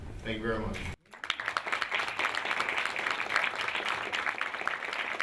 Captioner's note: applause